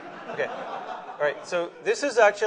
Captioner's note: laughter